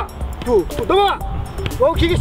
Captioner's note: coach's yelling